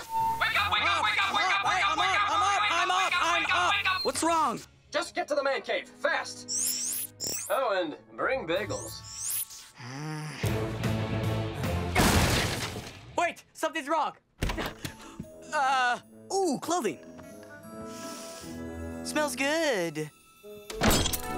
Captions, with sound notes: - Wake up! Wake up! - I’m up! I’m up! - What's wrong? - Just get to the Man Cave, fast. Oh and… bring bagels. [groaning] Wait! Something’s wrong! Uh ooh, clothing. Smells good.